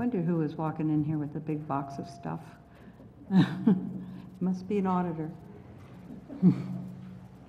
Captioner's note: laugh